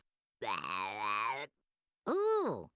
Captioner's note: belching